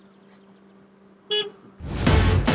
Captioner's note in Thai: เสียงแตรรถ